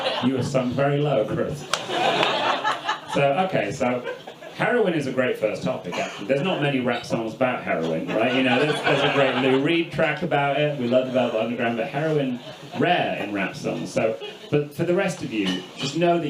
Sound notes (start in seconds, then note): 0.0 audience laughs; 7.9 audience laughs